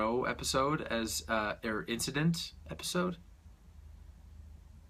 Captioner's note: stutters